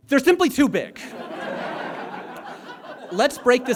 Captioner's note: audience laughs